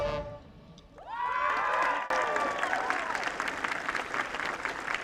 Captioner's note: audience cheering